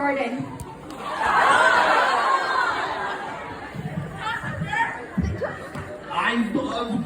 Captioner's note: annoyed audience noises